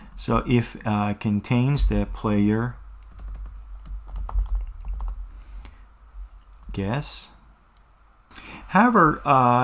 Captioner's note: typing